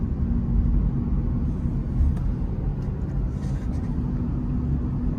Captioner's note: car softly driving